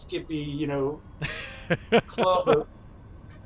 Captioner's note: laughter